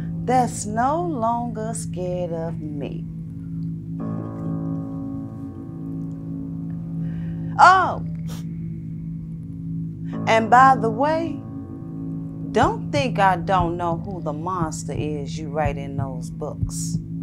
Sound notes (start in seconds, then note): none